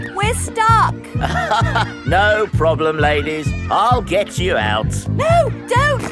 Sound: chuckles

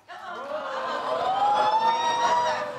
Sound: audience cheers

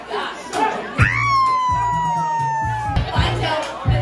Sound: whooping

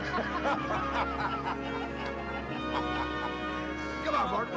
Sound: laughter

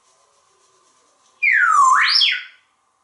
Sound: whistle

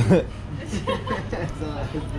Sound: laughing; woman laughing

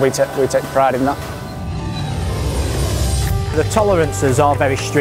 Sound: engine roaring

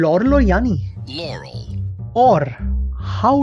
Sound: sound recording played

